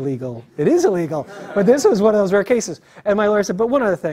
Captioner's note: laugh